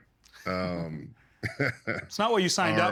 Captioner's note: chuckling